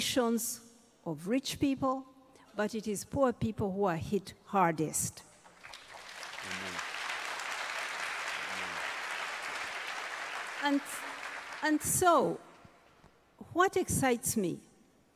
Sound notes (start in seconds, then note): 10.7 applause